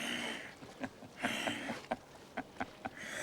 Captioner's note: laughing